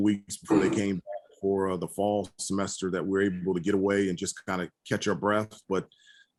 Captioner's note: laugh